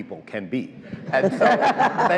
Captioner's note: all laugh